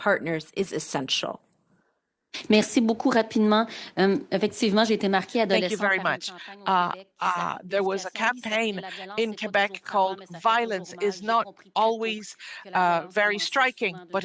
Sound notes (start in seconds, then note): 9.1 speaking in French